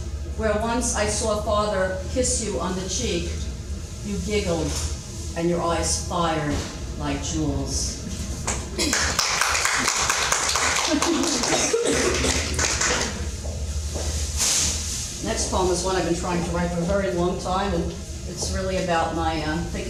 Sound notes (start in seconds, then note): 8.4 audience clapping; 10.8 laughing